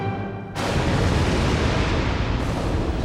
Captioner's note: thunder rumbling